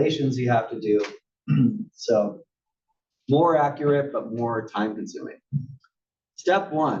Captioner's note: cough